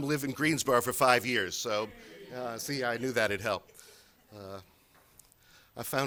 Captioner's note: laughter